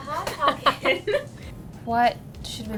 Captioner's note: laughing